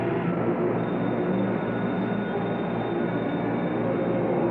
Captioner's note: phone ringing